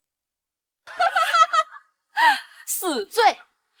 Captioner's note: sarcastically laughs